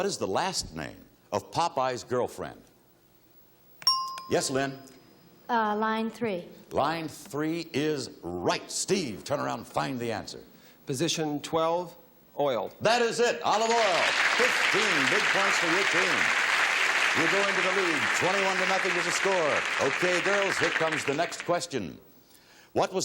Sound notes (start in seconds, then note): 3.9 bell chimes; 13.5 audience applauds